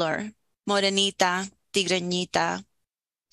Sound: speaking Native Language

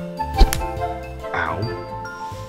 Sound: bright music continues; hands smacking

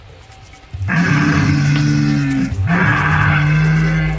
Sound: dinosaurs roaring

